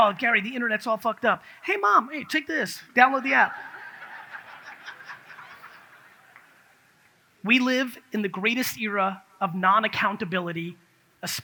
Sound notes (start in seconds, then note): 3.1 audience laughs